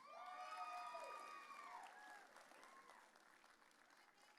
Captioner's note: audience cheering